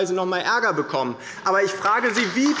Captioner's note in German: Beifall bei der LINKEN